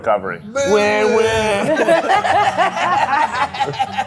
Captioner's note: all laughing